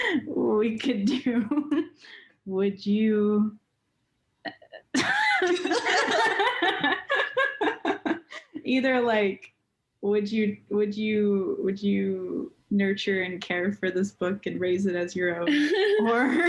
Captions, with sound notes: We could do would you... eh... (laughter) Either like would you, would you, would you nurture and care for this book and raise it as your own? Or